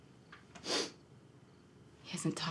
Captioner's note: Isaac sniffles